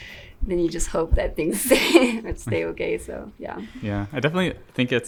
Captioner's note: laughs